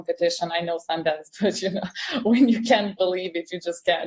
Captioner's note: chuckles